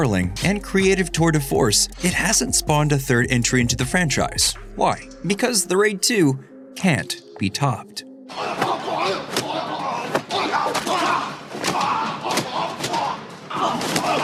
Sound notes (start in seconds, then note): 8.3 grunting, sounds of combat